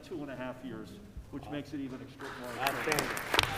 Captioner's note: applause